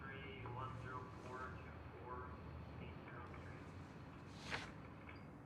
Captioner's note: man speaking faintly on intercom